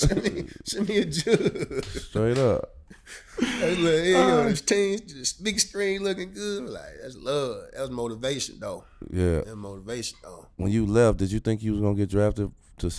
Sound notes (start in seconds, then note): 0.0 laughing; 3.4 murmurs